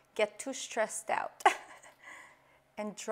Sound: laughs

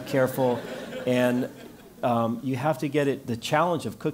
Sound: laugh

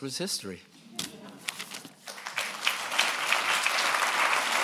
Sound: applause

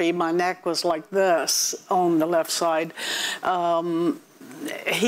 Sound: none

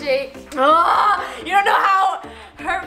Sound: yelling

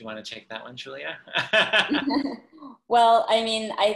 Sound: laughter

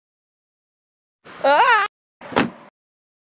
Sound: exclaims; thud

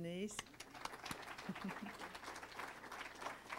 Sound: applauding

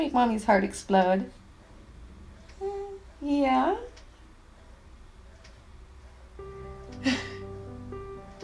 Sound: cooing and talking

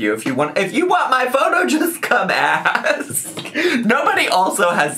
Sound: laughs

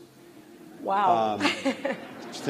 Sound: laughter

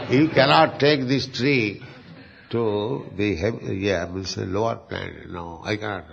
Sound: laughter

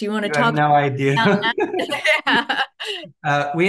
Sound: both laugh

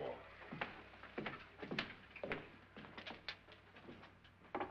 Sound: Lance's footsteps; knocking

